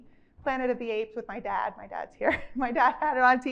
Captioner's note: chuckles